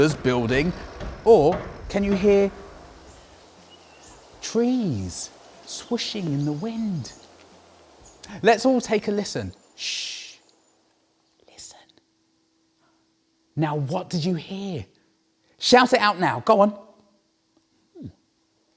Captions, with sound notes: building or can you hear trees swishing in the wind let's all take a listen shhh [whispers] listen now what did you hear? shout it out now go on